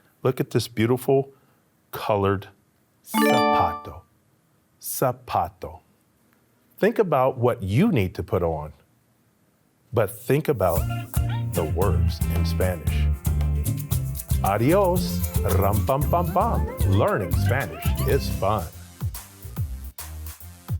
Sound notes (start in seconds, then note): 15.1 speaks in Spanish